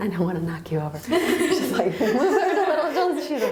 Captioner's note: laughing